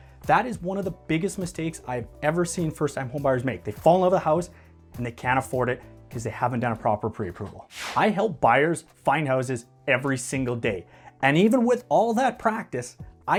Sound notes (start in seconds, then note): 7.7 air whooshing